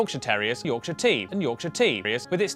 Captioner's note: voiceover